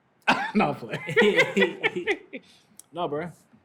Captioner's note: laughter